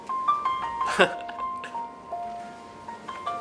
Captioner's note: laughs